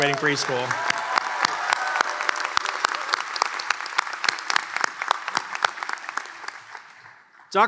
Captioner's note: applause and cheers